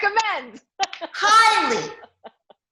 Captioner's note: laughs